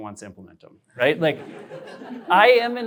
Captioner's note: laughter